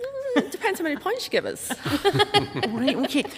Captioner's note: laughs